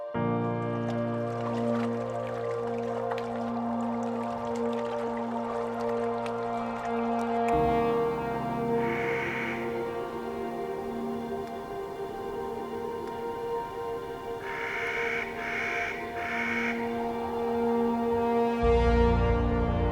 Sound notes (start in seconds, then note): 0.1 ethereal piano and vocal music; 7.6 Clark's nutcracker bird calls; 18.5 music swells, hermit thrushes sing